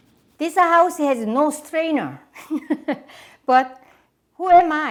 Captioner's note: chuckles